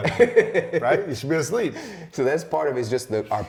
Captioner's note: laughter